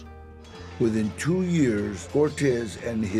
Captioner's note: in English